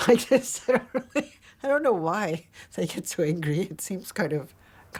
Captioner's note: laughing